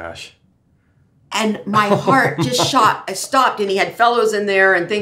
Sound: laughs

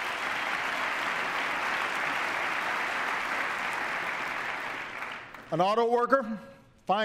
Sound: applause

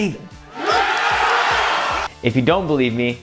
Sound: crowd cheers and applauds

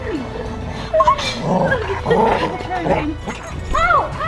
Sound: dog growling

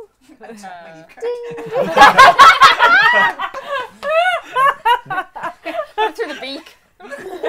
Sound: laughter

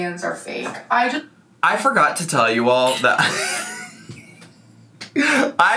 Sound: laughs

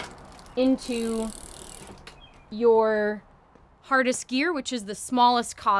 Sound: chain clicking

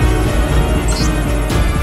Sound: alphabet displayed sound

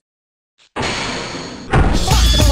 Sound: door opens

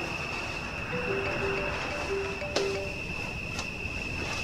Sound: keven's phone rings

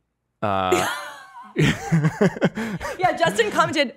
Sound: laughing

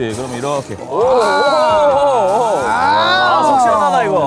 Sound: aaaaargh / Ohohohoh

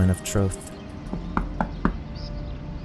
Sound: knocks

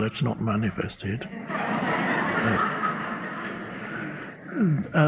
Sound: audience laughs

